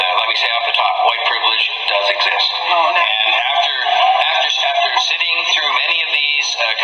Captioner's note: grumblings from the audience